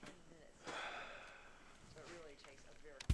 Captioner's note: sighs; clicks